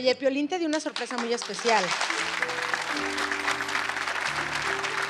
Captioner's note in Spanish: Aplausos